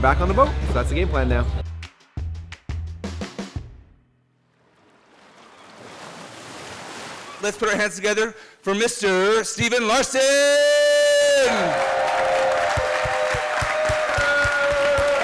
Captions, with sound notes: and then we're back on the boat. So that's the game plan now. (upbeat poppy rock music) (waves crashing) - Let's put our hands together for Mr. Stephen Larsen! (cheering and clapping)